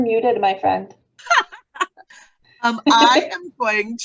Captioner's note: laughs